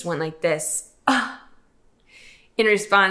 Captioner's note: sighing